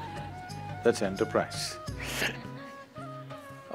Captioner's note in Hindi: हंसते हुए